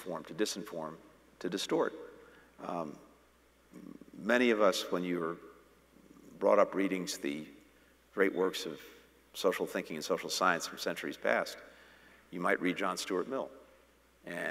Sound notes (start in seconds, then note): none